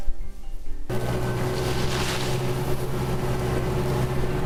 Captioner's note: ATV running